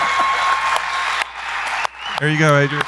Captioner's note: audience applauding and cheering